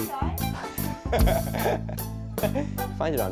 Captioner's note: laughs